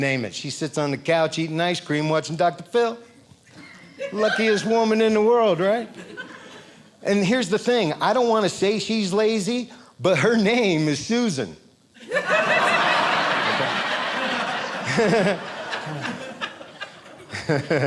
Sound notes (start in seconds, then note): 12.0 audience laughing